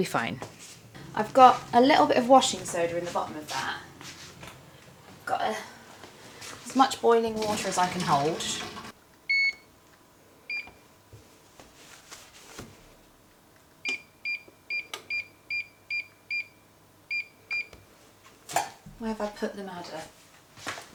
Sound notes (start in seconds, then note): 13.3 stove beeping